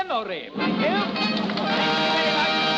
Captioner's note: applause